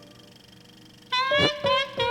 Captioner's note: growls